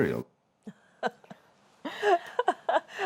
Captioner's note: laughs